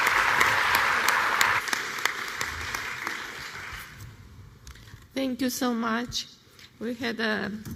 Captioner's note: applause